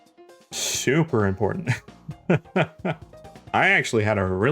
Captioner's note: laughs